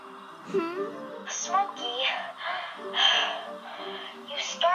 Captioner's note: pants heavily